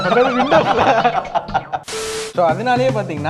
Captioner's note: laughs